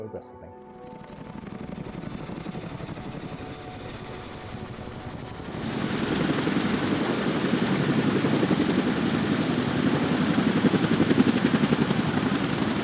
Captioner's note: rotary blade noise